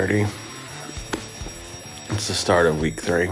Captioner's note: alarm ringing